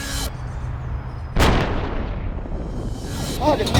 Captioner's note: cannon blasts